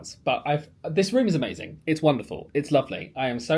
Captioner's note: none